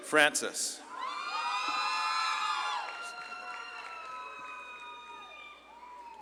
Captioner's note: audience claps and cheers